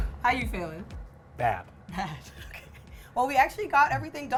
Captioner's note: laughs